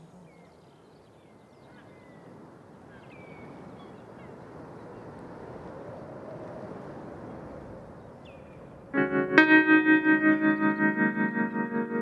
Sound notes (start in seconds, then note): 1.8 birdsong; 3.8 sea pounding